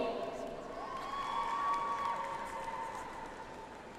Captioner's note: audience applauds